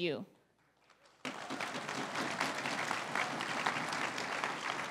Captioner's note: crowd applauding